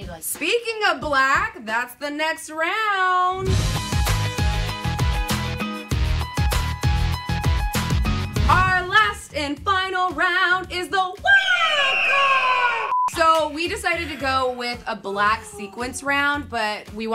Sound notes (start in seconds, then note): 3.4 electronic music plays; 11.4 eagle screeches